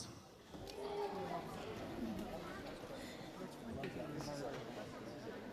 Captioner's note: audience chattering